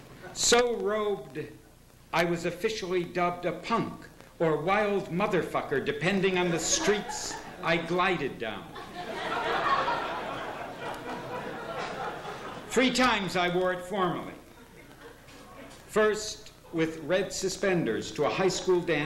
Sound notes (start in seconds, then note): 8.7 laughter